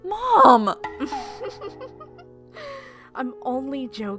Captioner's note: chuckling